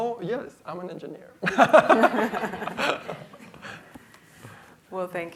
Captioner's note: laughter